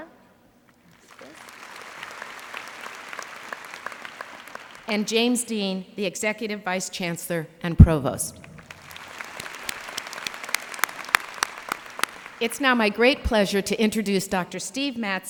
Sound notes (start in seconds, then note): 0.8 applause; 8.3 applause